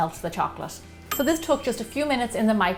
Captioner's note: ding!